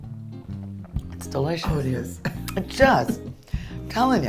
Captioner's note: laughs